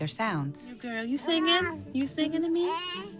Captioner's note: baby coos